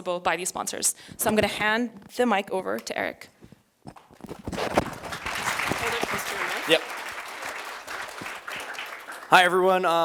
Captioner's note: applause